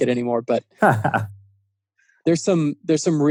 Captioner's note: laughing